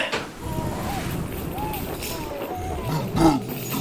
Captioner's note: distant voices yelling; wind whipping; deep grumbling